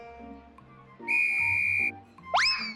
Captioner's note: tweet